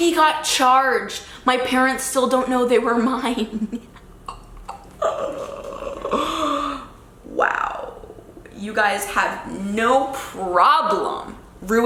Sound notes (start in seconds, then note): 4.2 laughing